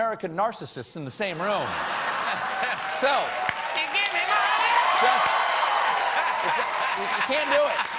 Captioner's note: cheers and applause